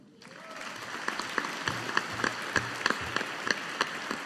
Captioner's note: audience applauding